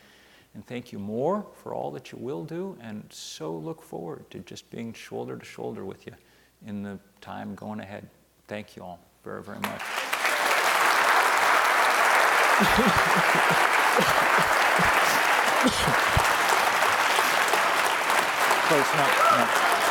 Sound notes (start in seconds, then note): 10.2 audience applause